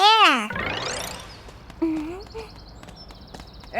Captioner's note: birds chirping